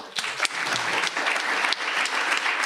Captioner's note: applause